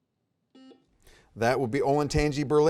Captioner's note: buzzer beeping